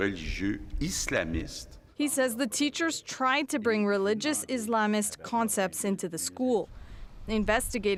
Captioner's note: speaking French